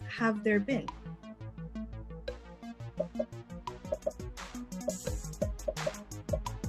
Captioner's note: popping; upbeat music